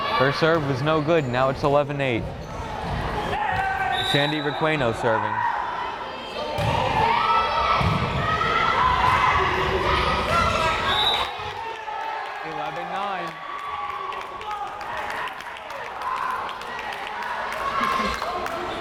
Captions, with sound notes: Her serve was no good, now it's 11-8. Sandy Requeno serving. (whistle blares) (crowd cheering) 11-9!